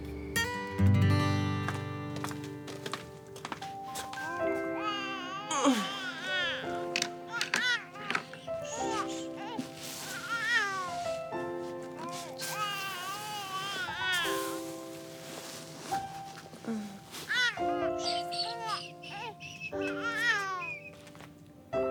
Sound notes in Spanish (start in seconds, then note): 4.2 Llanto de Victoria; 10.3 Victoria sigue llorando